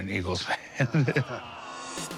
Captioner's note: laughs